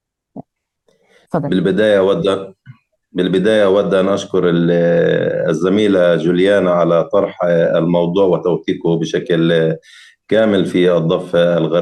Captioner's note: speaking arabic